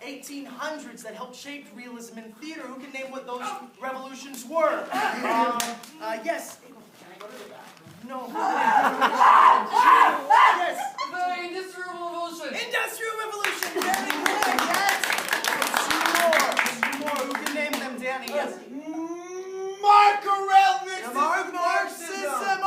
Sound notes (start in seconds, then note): 8.3 manic yelling; 13.4 applause